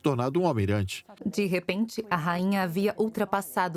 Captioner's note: voiceover